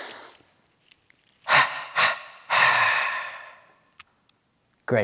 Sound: sucking in through a straw; short exhales

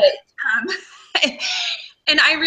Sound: laughs

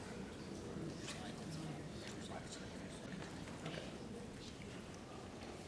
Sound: indistinct background chatter

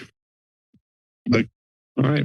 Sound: silence

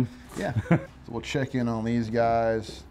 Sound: chuckles

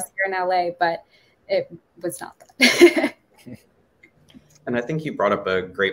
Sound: chuckles

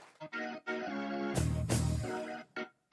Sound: applause

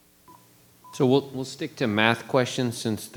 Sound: microphone beeping

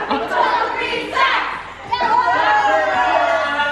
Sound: shouting

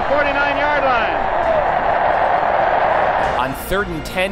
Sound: cheers

